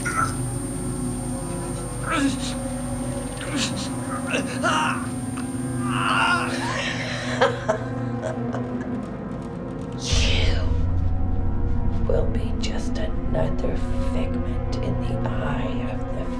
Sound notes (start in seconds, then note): 0.0 high-pitched squeal; 3.6 man moaning; 6.1 woman laughs